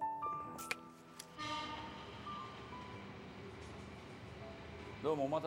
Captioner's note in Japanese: 警笛